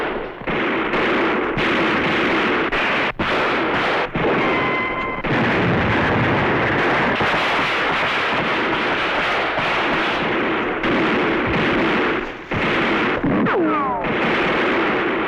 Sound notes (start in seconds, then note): 4.7 boom; 6.2 gunfire